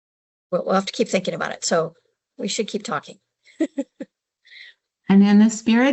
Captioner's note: laughs